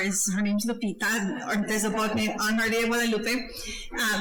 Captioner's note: speaking foreign language